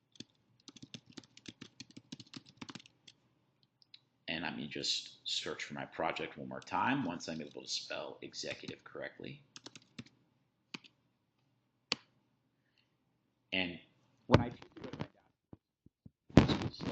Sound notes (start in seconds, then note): 0.6 keyboard clacking; 9.6 keyboard clacking; 16.3 audio distorts